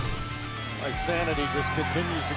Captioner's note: crowd cheering